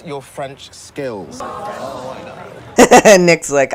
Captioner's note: students groan